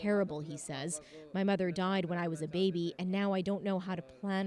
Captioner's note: speaking Foreign Language